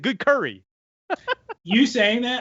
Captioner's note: laughs